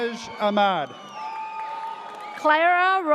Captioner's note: audience cheers